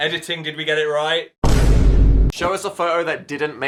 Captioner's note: thud booms